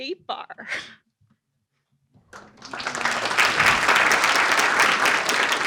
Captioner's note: applause